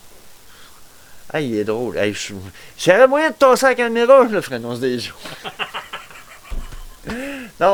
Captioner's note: laughter